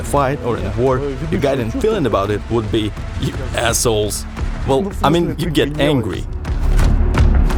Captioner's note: laughs